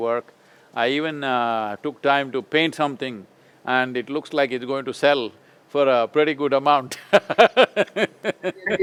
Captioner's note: laughs